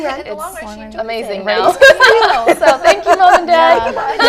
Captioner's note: laughter